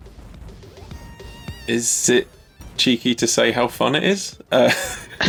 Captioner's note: laughs